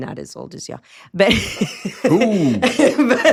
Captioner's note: laughs